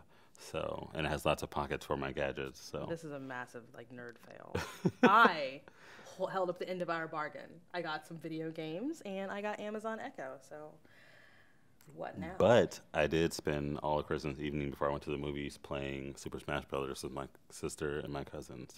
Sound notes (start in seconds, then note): 4.5 chuckles